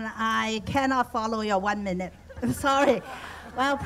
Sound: chuckles

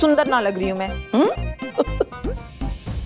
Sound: giggling

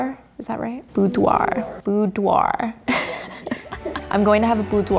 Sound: laughs

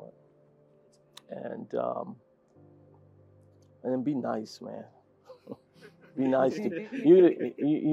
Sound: laugh

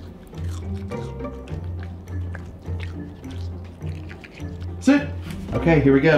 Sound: dog chewing; light instrumental music

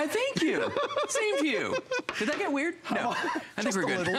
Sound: laughter

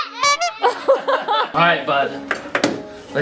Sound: laughing

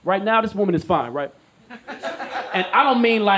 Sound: audience laughs

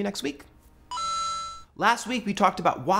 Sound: video game ding

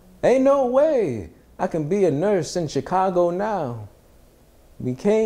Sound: none

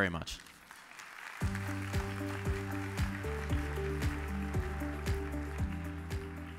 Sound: audience applauds; upbeat music

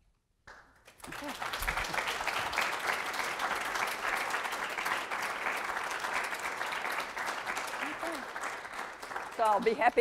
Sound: applause

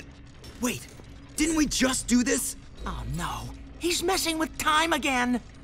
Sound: none

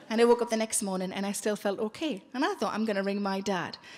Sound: none

